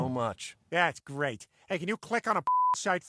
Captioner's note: beep